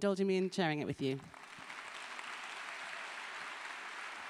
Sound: applause

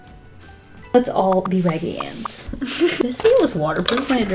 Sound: laughs

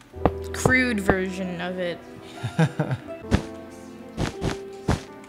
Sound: laughs

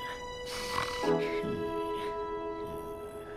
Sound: groan

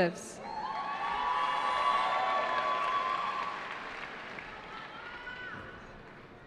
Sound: cheering

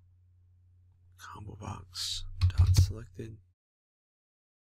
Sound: typing

